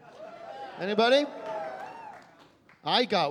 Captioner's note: scattered cheering